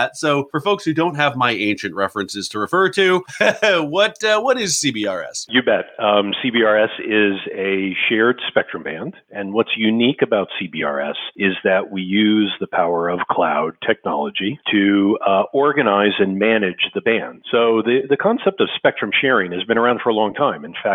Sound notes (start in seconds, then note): 3.1 laughs